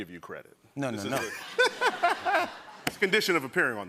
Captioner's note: laughter